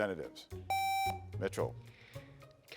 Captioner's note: buzzer beeps